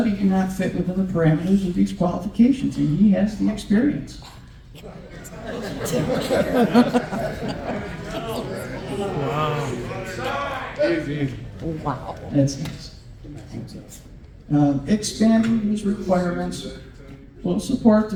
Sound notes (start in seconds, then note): 7.3 laughter